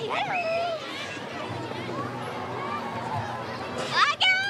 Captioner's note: children murmuring